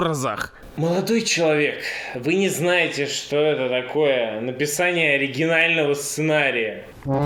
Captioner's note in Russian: со вздохом